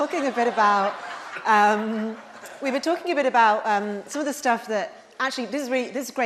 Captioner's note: laughter